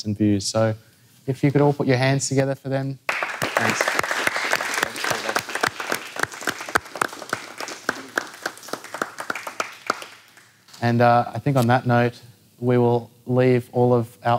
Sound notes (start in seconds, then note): 3.0 applause can be heard